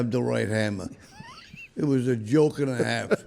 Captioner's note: laughing